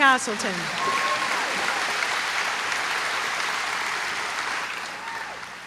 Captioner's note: applause